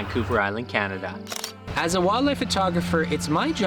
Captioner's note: camera shutter clicking